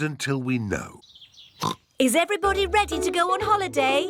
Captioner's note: oinks